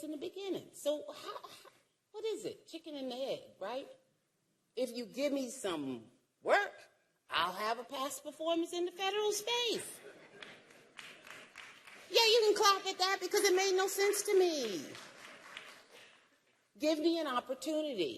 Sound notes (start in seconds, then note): 12.8 applause